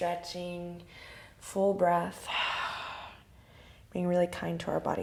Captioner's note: exhale